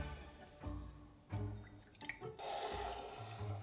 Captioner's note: liquid pouring